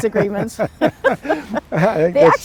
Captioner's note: both laughs